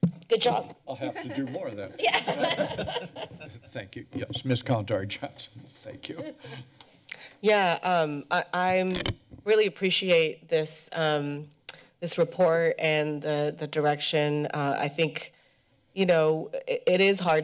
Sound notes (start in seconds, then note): 1.0 laughter; 6.8 laughs